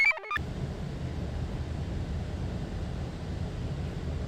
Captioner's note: computer chirps; wind murmurs